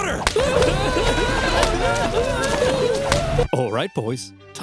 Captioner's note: roman soldiers yelling